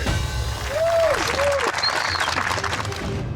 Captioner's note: applause